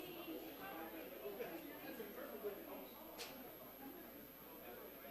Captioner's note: audience quietly talking